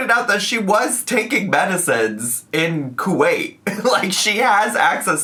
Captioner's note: laughs